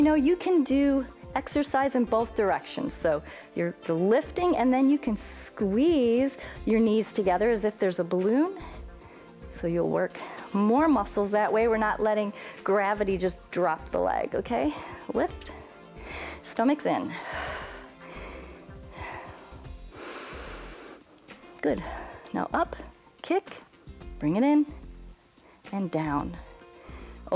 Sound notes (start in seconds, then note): 17.0 exhales; 20.0 inhales